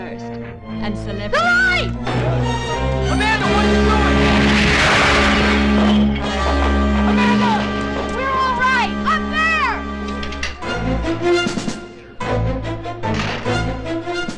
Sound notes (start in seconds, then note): 1.9 dramatic orchestral music; 3.3 loudly crashes; 4.3 dramatic orchestral music; 10.6 intense orchestral music